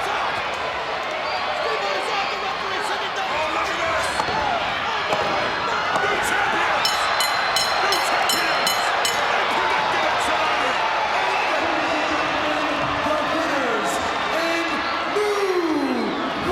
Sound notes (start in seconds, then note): 5.1 hands thudding; 6.8 bell ringing; 6.9 footsteps plodding; 8.0 crowd cheering